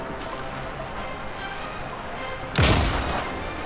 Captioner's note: gunshot